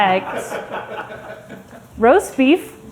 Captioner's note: crew laughing